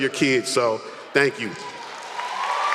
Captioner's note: applause